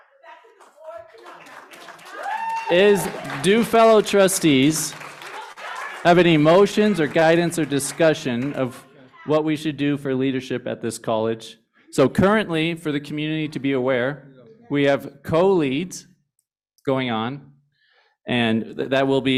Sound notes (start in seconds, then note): 2.3 cheers, applause